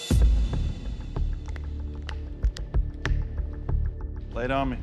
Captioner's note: snapping fingers